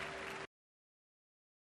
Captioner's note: applause